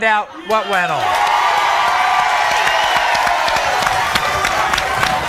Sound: audience cheering

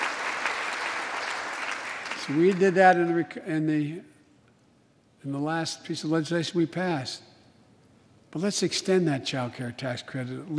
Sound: applause

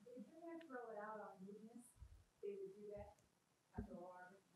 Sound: woman speaks faintly

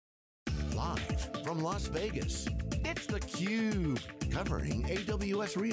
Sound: energetic, playful techno music; voiceover

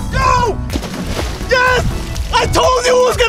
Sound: water splashes

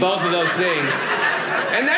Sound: audience laughing

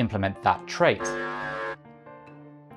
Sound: alarm

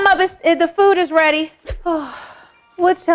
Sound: sighs

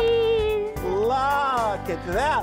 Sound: laughing

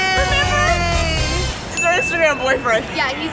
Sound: cheering

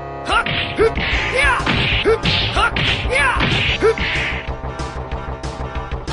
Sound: slapping

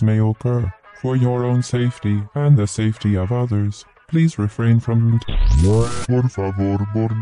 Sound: bzzzzzt

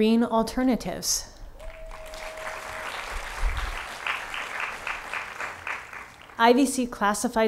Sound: applause

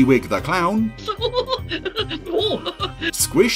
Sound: clown chuckling

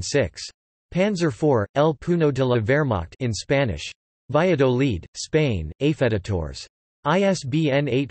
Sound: in Spanish

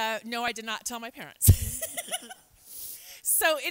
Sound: laughs

